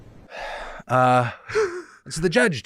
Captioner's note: laughs